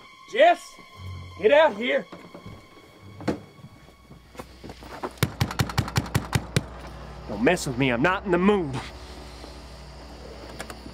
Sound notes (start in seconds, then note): 5.2 door knocking; 10.7 dramatic music